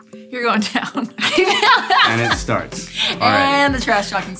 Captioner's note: laughs